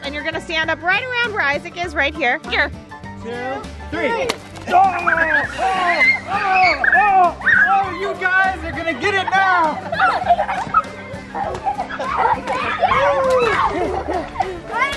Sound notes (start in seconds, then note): 4.2 splashing; 5.0 screaming and yelling; 10.1 laughing and splashing